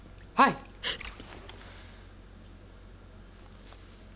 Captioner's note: gasping